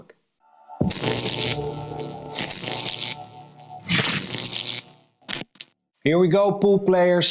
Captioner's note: dramatic music; text buzzing